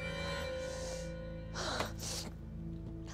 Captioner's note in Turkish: Nefes sesi